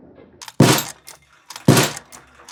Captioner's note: marble drops